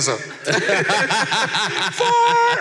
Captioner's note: laughs